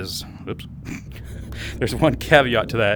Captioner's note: laugh